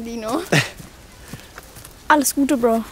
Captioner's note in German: Kajo lacht gezwungen